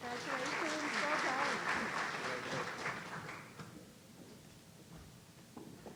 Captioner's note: audience applauding